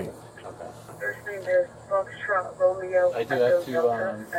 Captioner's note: radio Chatter